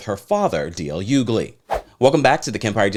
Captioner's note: whoosh